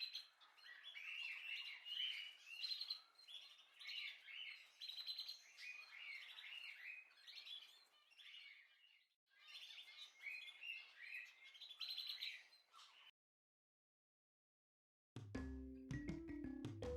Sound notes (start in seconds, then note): 9.3 bird